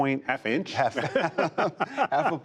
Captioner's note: laughter